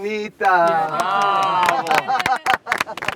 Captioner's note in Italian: applausi